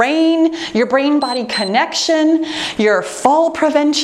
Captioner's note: timer beeps